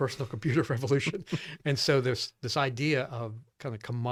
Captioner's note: laughing; laughs